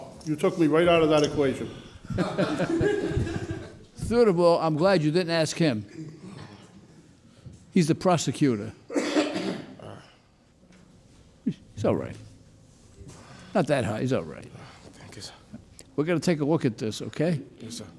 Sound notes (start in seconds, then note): 2.0 judge laughs